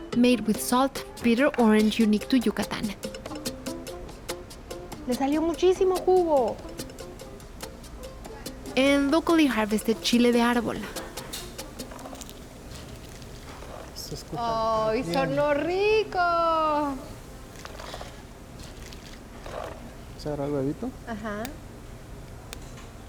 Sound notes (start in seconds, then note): 5.0 speaking Spanish; 11.4 squishing; 14.1 speaking Spanish; 16.8 squishing